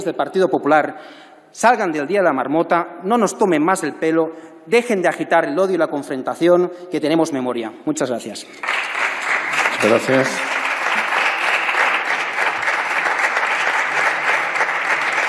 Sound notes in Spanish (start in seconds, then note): 9.0 Aplausos